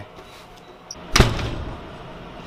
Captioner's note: door Slams